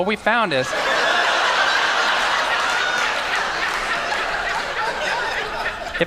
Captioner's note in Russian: Смех